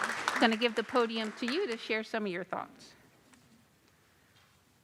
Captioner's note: applause